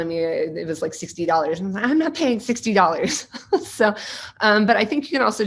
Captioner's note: laughing